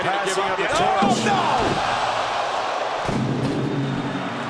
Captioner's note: stairs clanging